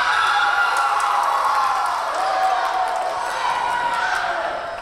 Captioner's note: Tigers cheering